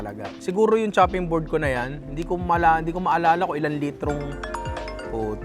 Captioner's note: phone ringing